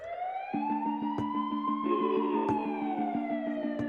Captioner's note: siren blaring